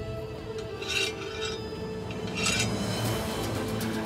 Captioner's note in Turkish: Kılıç sesleri